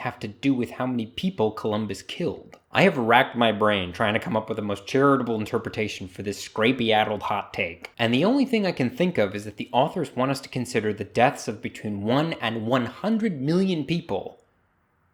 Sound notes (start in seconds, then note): none